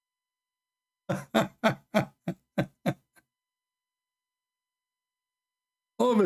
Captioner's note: Ketawa